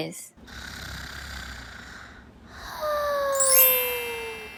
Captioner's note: snoring